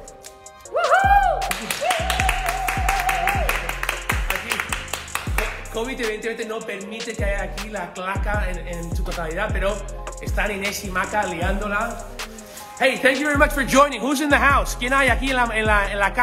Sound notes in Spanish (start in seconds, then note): 0.8 Cheering